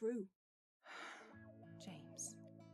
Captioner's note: Regulus sighs